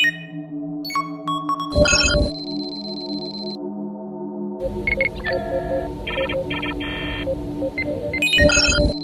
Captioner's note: computer beeps